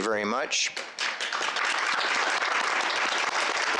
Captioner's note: applause